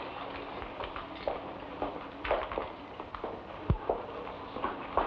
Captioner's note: footsteps patter